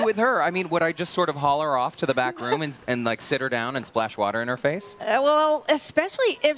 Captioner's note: laughter